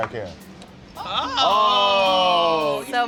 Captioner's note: all exclaiming